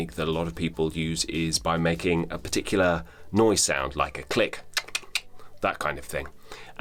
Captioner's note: clicks